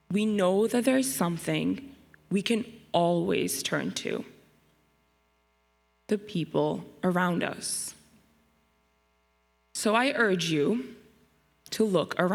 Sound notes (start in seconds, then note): none